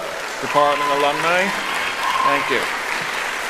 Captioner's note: cheering